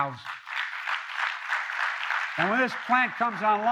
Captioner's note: applause